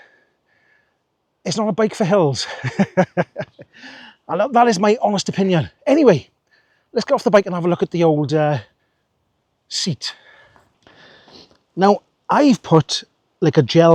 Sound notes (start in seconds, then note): 2.4 laughs